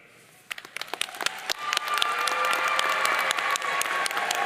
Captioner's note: audience cheering